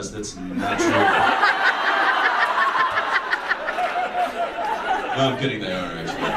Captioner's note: audience laughs